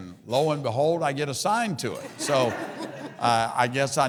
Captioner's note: audience laughs